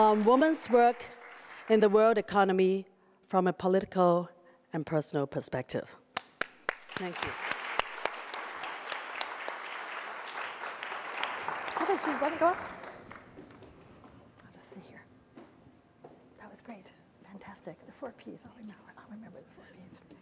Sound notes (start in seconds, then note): 6.5 applause; 12.1 whispering